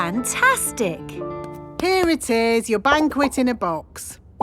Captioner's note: none